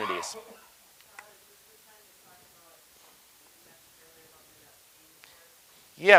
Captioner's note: person speaking quietly